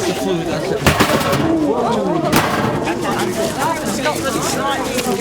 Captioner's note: crashing of metal shelves